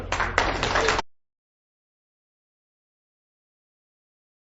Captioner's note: audience clapping